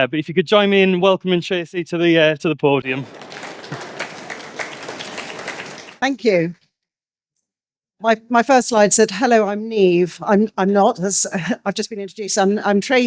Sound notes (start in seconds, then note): 4.4 audience Applauding